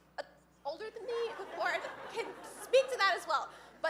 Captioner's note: audience laughing